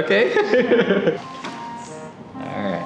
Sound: laughing

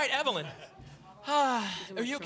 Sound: sighs

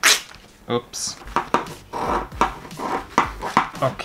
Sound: cutting Sounds

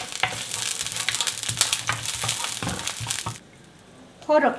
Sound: pan sizzling

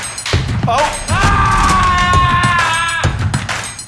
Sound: shouting; upbeat music

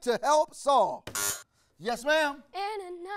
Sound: buzzer rings

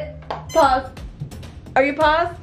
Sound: machine beeps

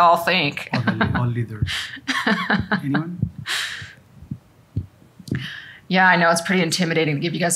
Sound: laughter

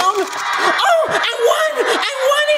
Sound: automated crowd cheering

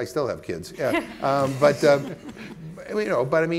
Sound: panelists chuckling

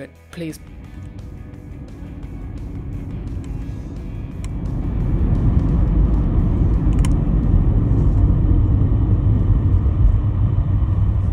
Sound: driving sounds

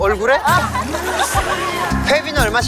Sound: Liquor tone like Hwang Jeongmin

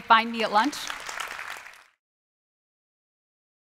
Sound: applause

